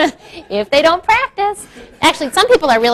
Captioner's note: laughs; crowd laughs